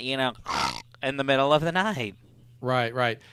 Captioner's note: snorts